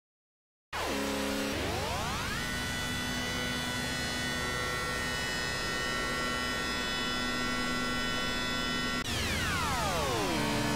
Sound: engine noise

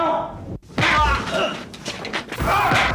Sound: groaning

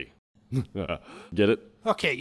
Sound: chuckles

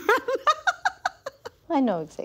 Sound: laughs

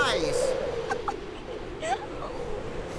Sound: laughs

